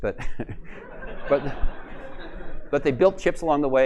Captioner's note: laughter